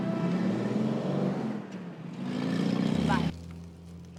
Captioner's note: motorcycle engine